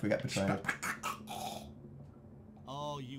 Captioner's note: weird shushing sounds